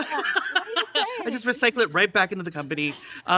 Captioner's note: laughs